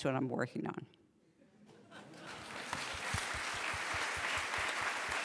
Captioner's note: applause